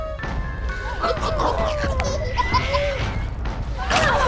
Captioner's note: puppets cooing; puppets gurgling